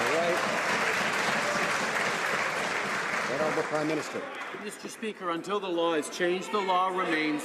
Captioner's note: some Applause